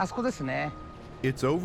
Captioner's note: speaking Japanese